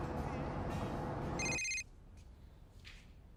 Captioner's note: phone rings